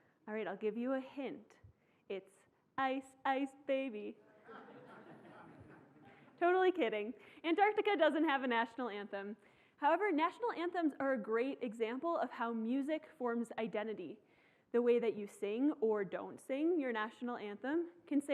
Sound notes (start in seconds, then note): 4.4 laughing